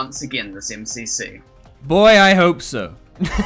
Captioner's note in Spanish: risas